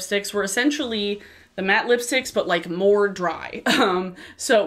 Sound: chuckles

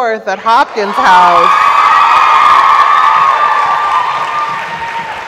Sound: audience cheers

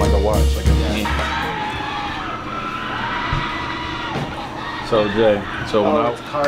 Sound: people cheering outside

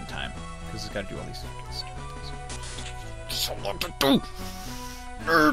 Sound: salty mumbling

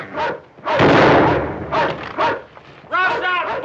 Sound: gunshot

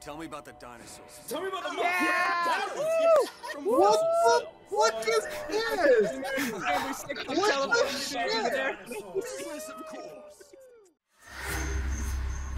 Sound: cheering

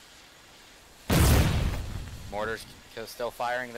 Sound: boom

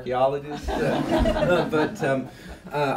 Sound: laughter

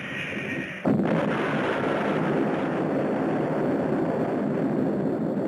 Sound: explosion roaring

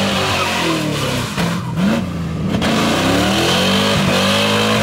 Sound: tires squealing

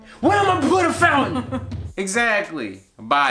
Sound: laughing

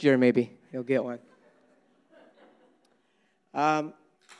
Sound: audience laughing

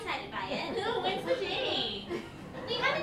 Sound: mockingly

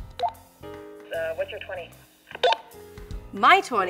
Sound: voice Over Walkie-talkie

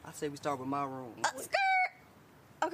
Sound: Hailey screeches

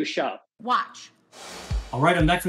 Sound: screen whooshing

